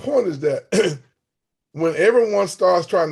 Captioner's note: clears throat